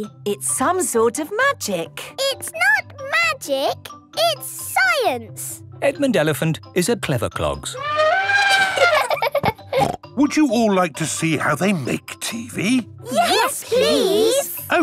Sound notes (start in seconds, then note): 7.7 trumpeting; 8.2 laughing